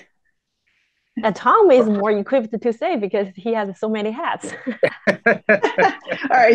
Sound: laughter

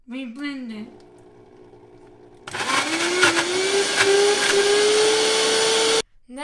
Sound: blending

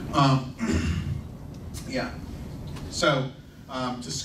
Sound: clears throat

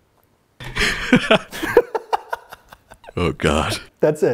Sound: laughs

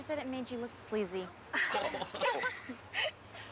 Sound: giggling

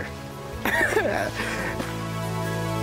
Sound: laughs; soft music

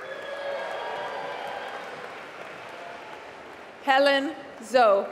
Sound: applause

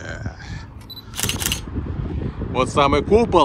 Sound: camera clicks

